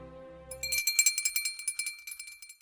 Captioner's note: bell jingling